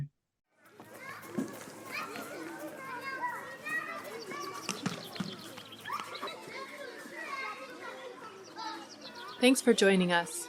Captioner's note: audio clip of voices of kindergarteners on playground fades in